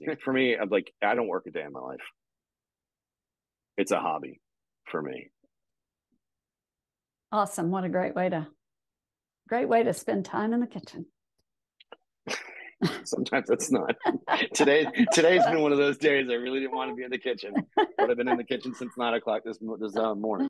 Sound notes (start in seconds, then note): 13.4 both chuckling; 16.5 chuckling